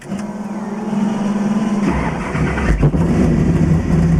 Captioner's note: engines starting